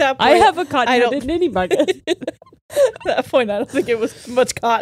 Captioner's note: all laughing